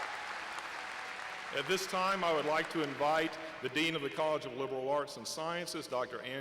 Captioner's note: applause